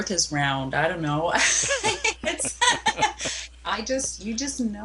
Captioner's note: laughs